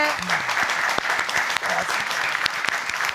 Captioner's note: applause